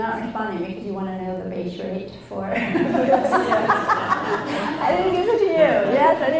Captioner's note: laughs, audience laughs